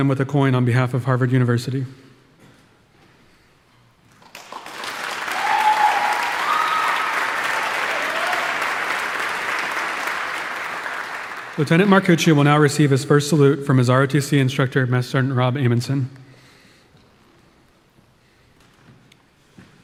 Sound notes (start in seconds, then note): 4.5 audience applauding; 4.6 audience cheering